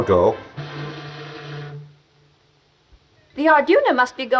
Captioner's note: horn blows